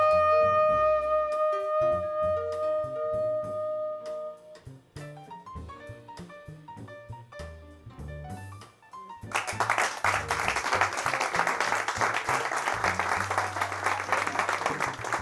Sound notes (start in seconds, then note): 9.3 applause